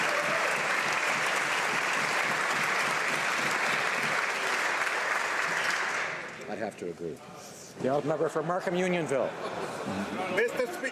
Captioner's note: applause